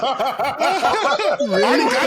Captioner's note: laughing